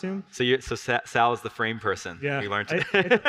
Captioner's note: laughs